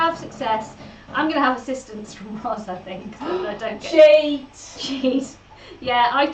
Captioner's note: gasps